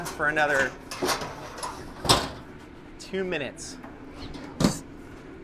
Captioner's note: shelves clanking